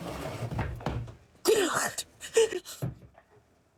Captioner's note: sobbing